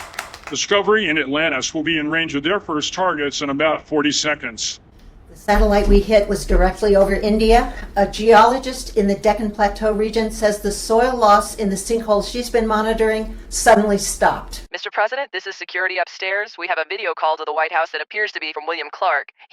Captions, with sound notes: - Discovery and Atlantis will be in range of their first targets in about 40 seconds. - The satellite we hit was directly over India. A geologist in the Deccan plateau region says the soil loss in the sinkhole she's been monitoring suddenly stopped. - [female voice over intercom] Mr. President, this is security upstairs. We have a video call to the White House that appears to be from William Clarke.